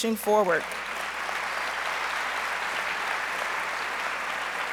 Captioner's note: audience applauds